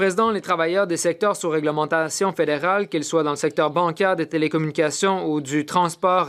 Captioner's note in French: voix de l'interprète